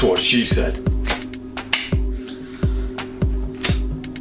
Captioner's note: snaps